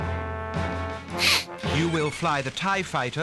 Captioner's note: laughs